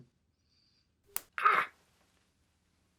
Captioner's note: snaps rubber bands